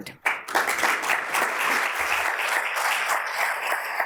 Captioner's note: audience applauds